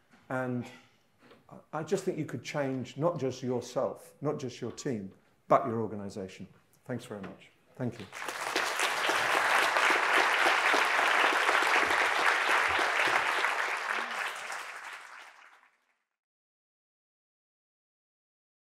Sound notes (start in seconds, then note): 7.9 audience applauding